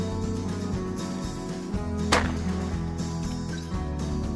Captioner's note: gun shots